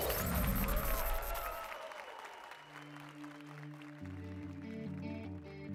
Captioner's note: applause and cheers